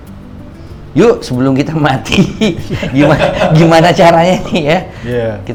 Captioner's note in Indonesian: tertawa